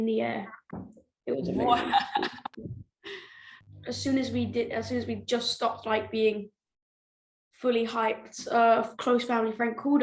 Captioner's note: laughter